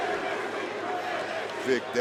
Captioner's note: crowd chants "NXT"